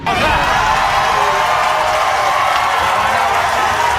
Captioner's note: audience cheering